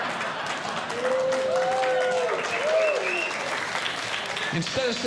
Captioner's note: audience Laughing; audience Clapping